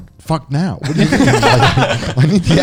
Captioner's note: laughing